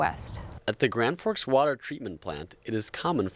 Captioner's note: voiceover